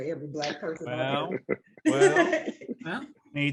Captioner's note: faintly speaking